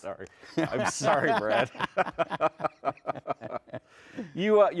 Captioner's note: laughs